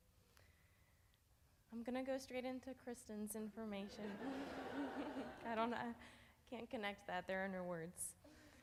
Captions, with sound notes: I'm gonna go straight into Kristen's information. (audience laughs) I can't connect that. There are no words.